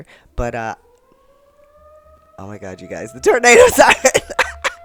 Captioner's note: siren begins